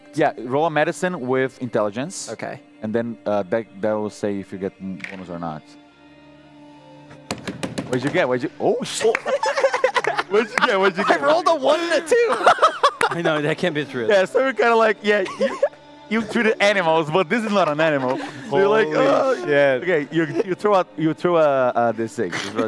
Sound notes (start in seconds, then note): 7.2 beating on the table; 9.0 laughter